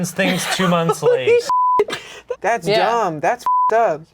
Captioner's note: beep